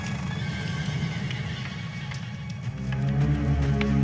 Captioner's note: horses neighing; dramatic music